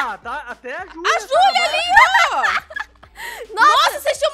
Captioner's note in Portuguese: continua rindo